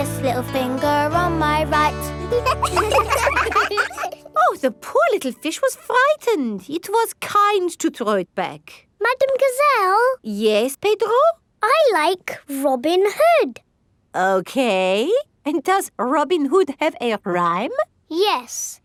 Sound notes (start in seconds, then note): 2.1 children laugh